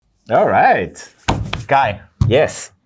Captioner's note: table thuds